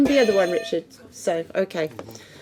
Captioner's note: buzzing